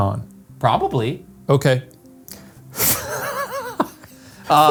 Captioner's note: laughs